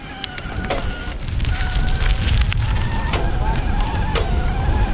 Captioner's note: wind whooshing